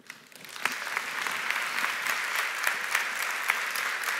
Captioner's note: audience applauding